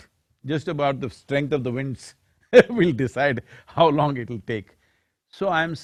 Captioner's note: laughs